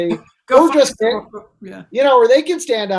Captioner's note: laughs